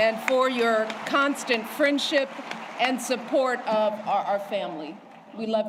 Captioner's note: applause